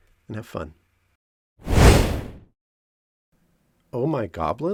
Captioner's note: fire